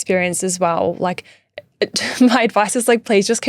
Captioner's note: laughing